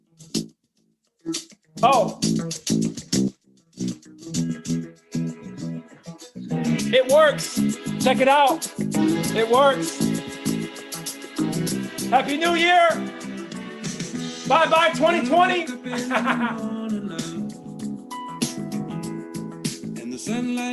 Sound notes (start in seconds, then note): 1.8 upbeat music; 15.6 laughs; 18.9 upbeat music